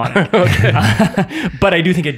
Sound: all laughing

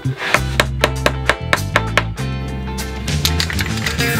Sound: hammer thudding

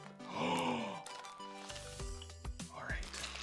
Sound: gasps

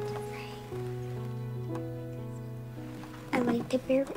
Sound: Grace whispering

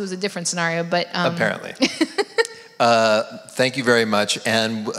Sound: laughs

